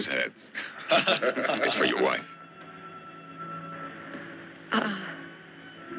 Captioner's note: laughter